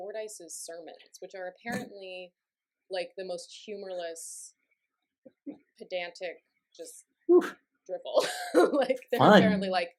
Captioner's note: laughter